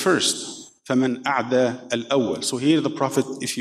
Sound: speaking in foreign language

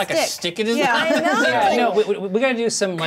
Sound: laughs

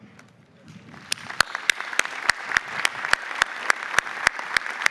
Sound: audience applauding

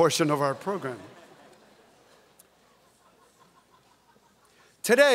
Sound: audience chuckles

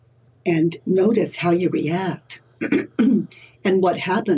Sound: clears throat

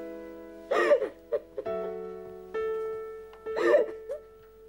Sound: crying

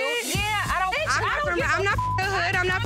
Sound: beep

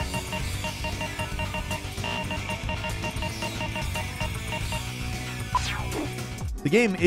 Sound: game menu bleeping

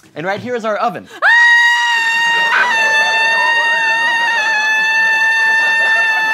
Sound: screams; still screaming

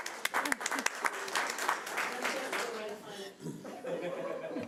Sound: audience applauding

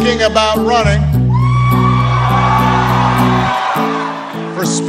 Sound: audience Cheers

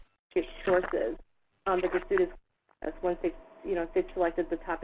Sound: audio interference

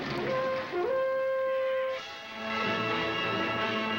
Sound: horn Blowing

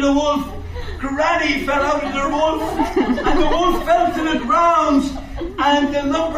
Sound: audience laughs

